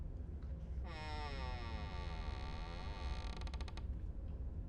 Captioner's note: door creaking